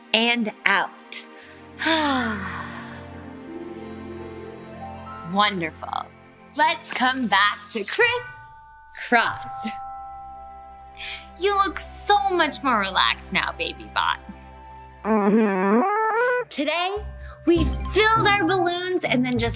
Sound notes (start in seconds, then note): 1.8 exhales